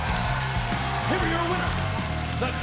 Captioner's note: crowd cheering